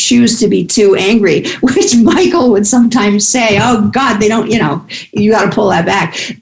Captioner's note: laughs